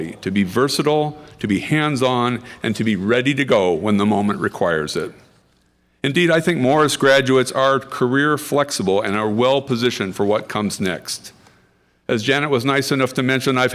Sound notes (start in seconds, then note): none